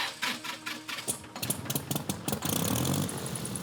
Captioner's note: engine starts